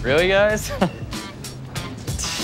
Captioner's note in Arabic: ضحك